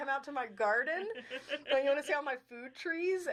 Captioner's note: chuckling